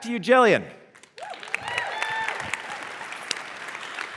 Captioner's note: cheers and applause